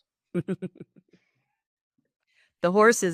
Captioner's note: laughter